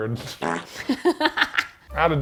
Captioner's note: fart squeaking; laughing